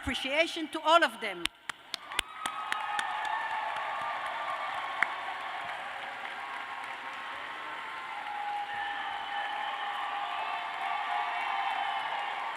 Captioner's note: cheers and applause